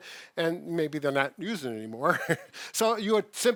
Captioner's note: chuckles